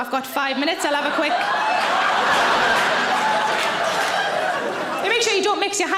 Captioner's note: audience laughs